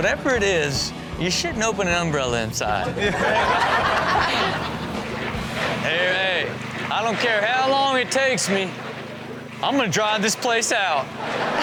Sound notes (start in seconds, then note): 2.8 audience laughs; 10.9 audience laughs